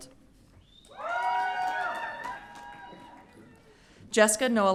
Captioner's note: audience cheering